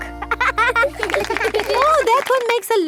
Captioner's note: laughing